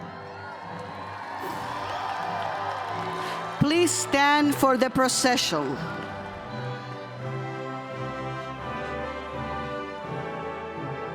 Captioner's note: cheers